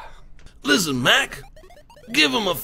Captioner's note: gravelly voice